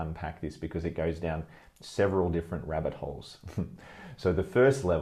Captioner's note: laughs